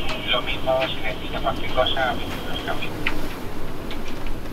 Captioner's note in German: Funkgerät